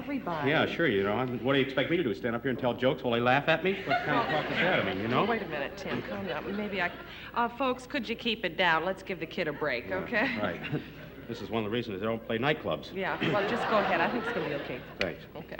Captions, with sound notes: Sure, what do you expect me to do, stand up here and tell jokes while they laugh at me? What kind of talk is that? You know. Wait a minute Tim, calm down. Maybe I could-- Folks, could you keep it down? Let's give the kid a break, okay? All right, (chuckles) this is one of the reasons I don't play nightclubs. Yeah, well, just go ahead, I think it's going to be okay. -Thanks. -Okay.